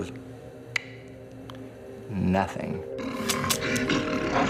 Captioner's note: clicks tongue